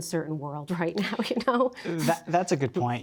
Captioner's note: chuckles